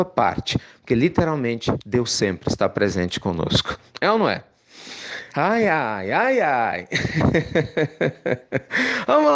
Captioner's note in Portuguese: risos